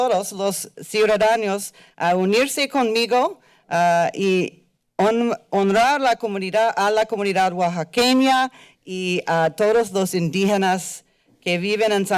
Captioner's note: foreign language